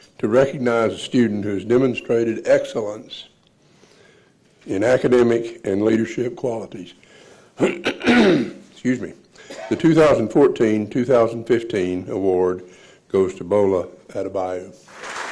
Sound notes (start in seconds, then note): 7.6 clearing throat